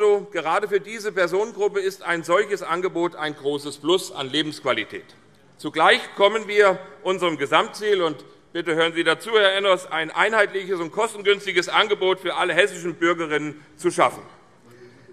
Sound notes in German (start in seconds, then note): none